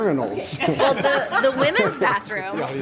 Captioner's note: giggles